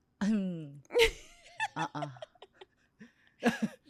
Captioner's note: laughs